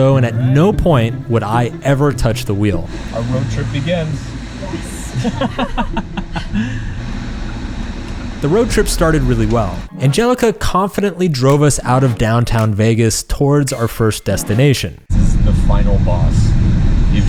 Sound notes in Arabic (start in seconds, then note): 5.5 ضحكة مكتومة